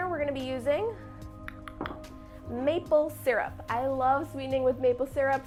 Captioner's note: clicks tongue